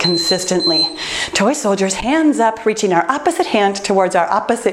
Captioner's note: timer beeps